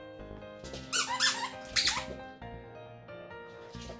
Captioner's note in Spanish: chirriando